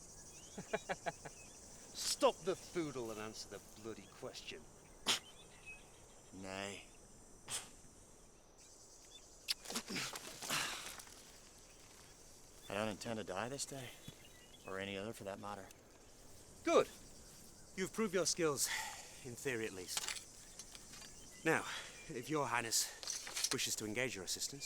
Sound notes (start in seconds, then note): 0.5 laughs; 9.4 kiss